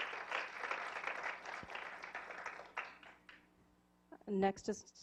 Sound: applause

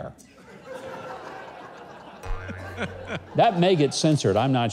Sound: laughs

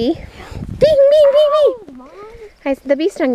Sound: makes stinging sounds

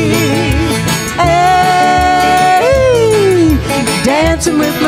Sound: yelling

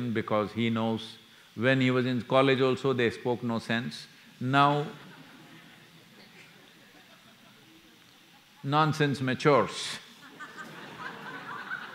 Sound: laughter

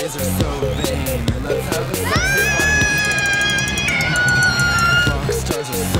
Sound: both yelling

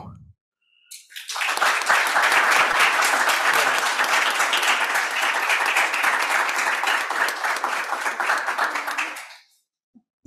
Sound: applause

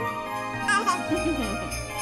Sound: giggles

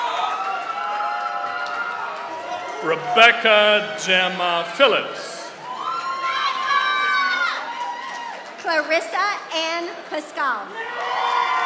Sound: applause

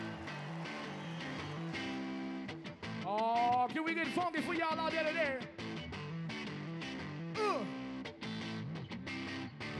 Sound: cheering

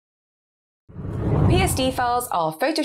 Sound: screen whooshes

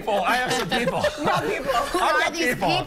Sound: laughter

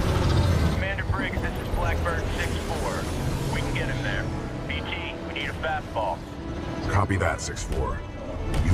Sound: radio

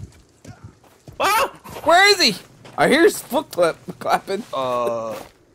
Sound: screams

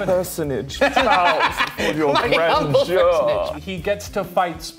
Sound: laughing

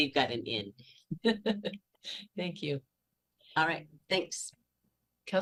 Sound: laughter

